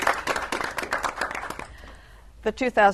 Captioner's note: applause